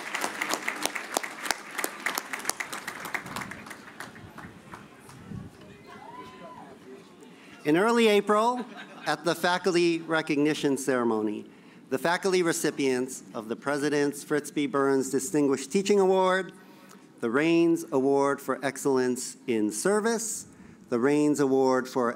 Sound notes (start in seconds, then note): 0.0 cheers and alause